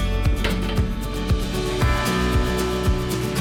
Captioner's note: door clangs; cheerful upbeat music continues